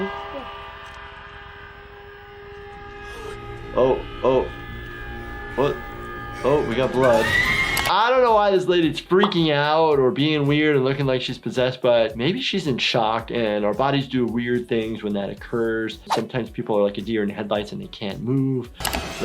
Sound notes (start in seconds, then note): 7.1 screams